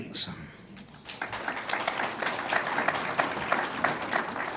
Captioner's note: audience applauds